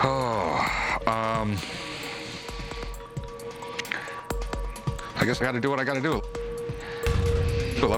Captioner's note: sigh